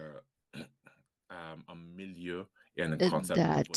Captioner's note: speaking french